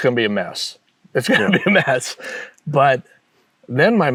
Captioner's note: chuckling